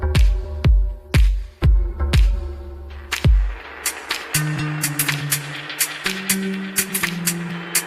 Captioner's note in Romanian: Aplauze